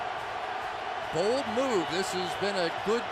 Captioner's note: cheering